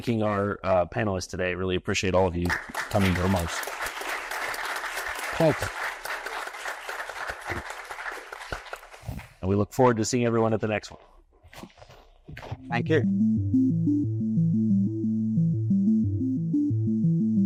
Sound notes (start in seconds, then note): 2.4 audience applauding